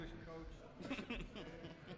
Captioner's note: laughs